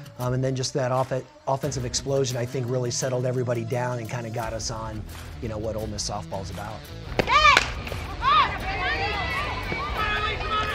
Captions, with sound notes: and then just that offensive explosion I think really settled everybody down and kind of got us on what Ole Miss softball is about. [crowd shouting]